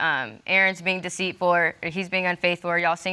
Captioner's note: none